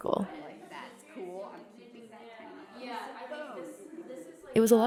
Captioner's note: guests talking